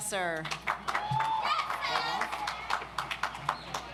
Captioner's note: audience applauds